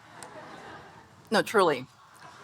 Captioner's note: audience laughing